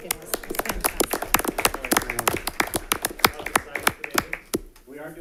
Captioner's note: attendees applaud